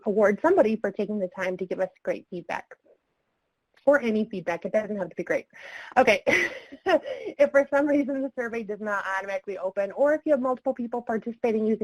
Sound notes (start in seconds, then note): 7.1 laughing